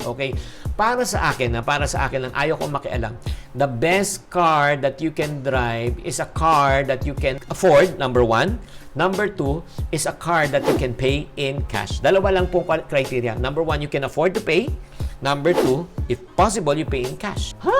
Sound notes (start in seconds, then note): none